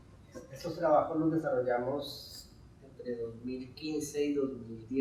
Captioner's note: speaking in Spanish